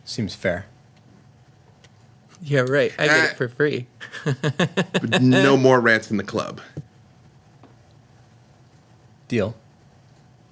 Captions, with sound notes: "Seems fair." Yeah, right, I get it for free. (laughs) But no more rats in the club. "Deal.